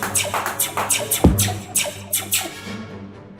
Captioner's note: blaster and gun sound effects; thump